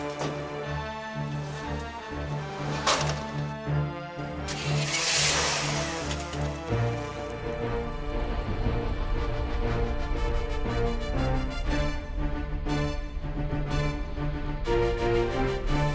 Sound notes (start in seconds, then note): 2.7 truck door banging; 4.5 engine revving; 7.4 thrilling music